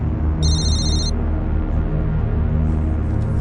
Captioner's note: phone ringing